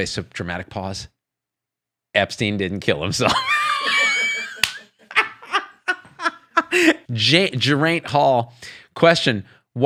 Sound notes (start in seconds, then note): 3.3 laughs